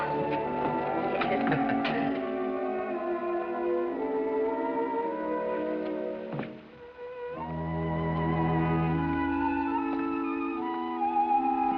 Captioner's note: both laugh